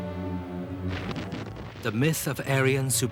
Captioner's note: explosions booming